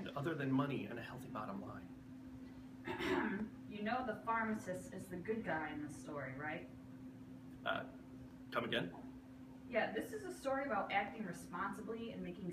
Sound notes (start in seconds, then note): 2.8 coughs